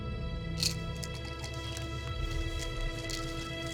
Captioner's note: pills rattling